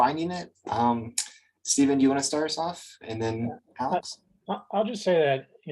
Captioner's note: lips smack